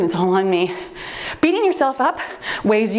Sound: timer beeps

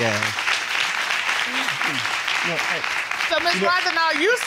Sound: audience applause

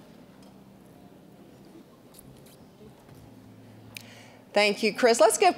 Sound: general chatter

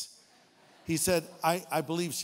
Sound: audience laughing

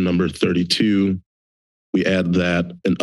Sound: silence

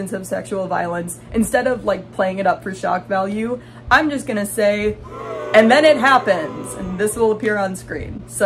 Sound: booing

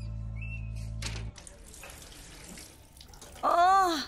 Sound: door closes; water pouring

